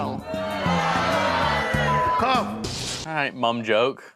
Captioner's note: people booing